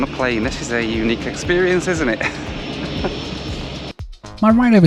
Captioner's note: laughs